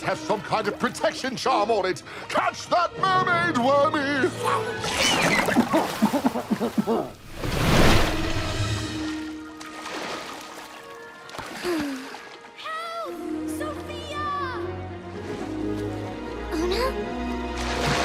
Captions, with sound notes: THE COMB MUST HAVE SOME KIND OF PROTECTION CHARM ON IT. CATCH THAT MERMAID, WORMY! ( gurgles ) ( coughs ) ( sighs ) HELP! SOFIA!